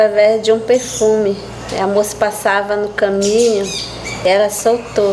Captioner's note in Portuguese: pássaros cantando